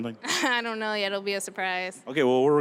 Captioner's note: chuckling